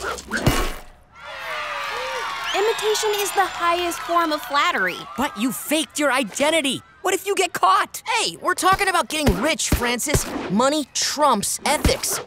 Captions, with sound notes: [cheering] Imitation is the highest form of flattery. But you faked your identity. What if you get caught? Hey, we're talking about getting rich, Francis. Money trumps ethics.